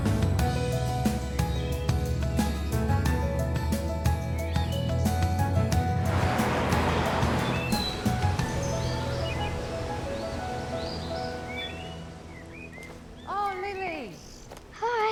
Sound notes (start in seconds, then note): 2.3 upbeat music continues; 7.8 birds chirping